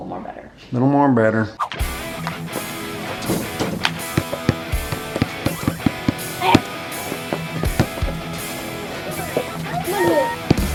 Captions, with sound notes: Little more better. - Little more better. (rock music) (ball dribbling)